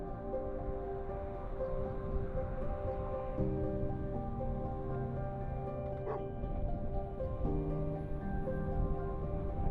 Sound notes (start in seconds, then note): 3.1 dog barking; 3.1 somber piano music